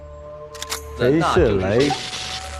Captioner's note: electroshock